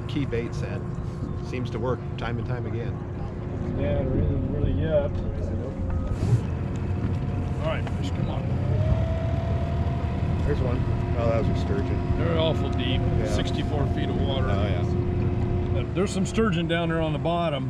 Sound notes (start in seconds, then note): 4.3 background chatter; 9.6 boat engine running